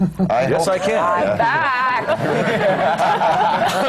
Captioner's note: laughter